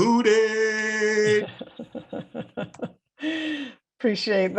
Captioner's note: laughter